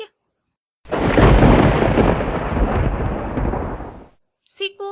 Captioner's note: thunder